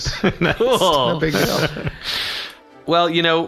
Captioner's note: laughing